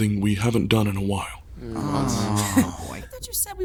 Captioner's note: groans in unison